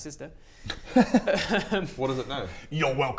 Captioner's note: unguilty giggles